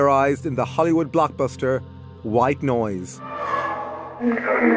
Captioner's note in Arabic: أصوات من ما وراء